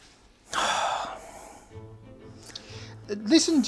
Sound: sighs

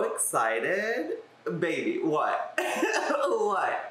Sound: laughs

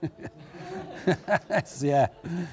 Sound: chuckles

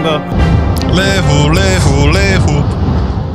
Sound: RWR Sounds

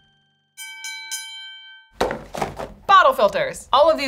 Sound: bell dings

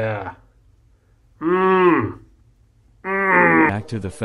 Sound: grunts

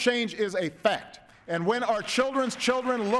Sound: applause

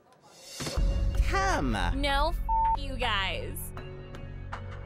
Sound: beep

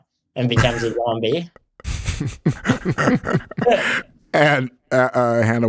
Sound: everybody laughing

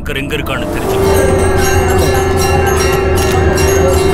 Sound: Conch blows

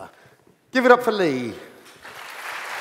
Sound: applause

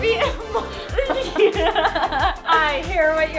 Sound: laughing

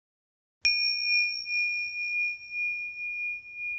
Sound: bell chimes

